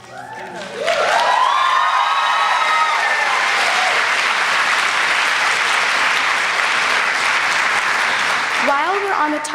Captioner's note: applause